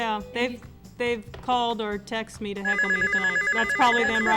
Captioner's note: phone ringing